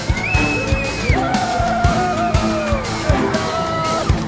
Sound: cheering

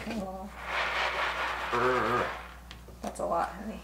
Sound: groaning

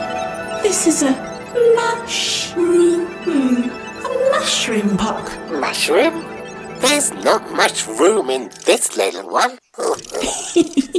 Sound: laughs

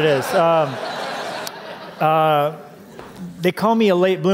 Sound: laughter

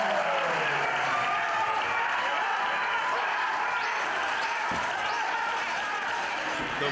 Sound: applause

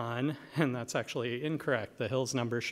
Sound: chuckle

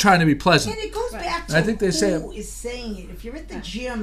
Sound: voiceover

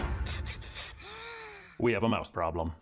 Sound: gasps

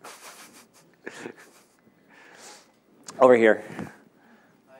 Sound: laughing

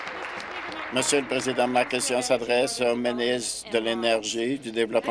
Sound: applause

